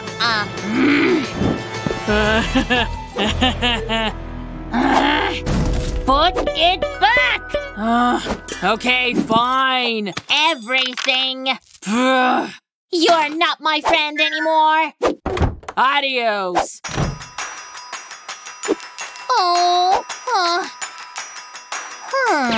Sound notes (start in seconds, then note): 0.3 making frustrated sounds; 5.0 making angry sounds